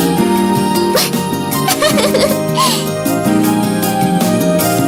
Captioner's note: giggling